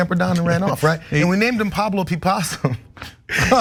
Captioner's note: laugh